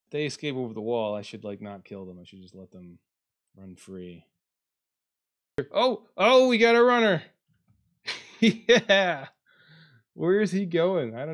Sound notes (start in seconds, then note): 8.1 laughs